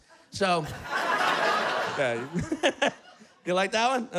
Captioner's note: laughter